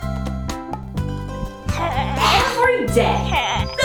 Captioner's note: boy grunts